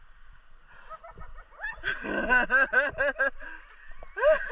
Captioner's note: machiavellian laugh